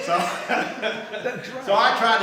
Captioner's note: group laughing